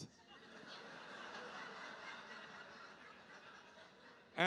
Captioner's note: audience laughing